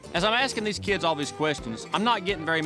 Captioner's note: none